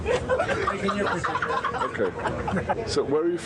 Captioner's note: passengers laughing